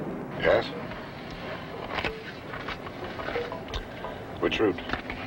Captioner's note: suspenseful music; paper rustles